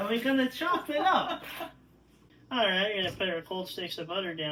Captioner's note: laughter off-screen; said in bad Italian-American accent